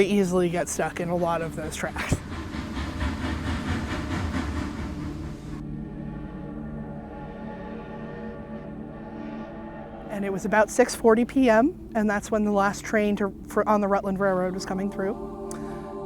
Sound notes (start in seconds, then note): 3.2 train chuffing; 7.2 train whistle sounding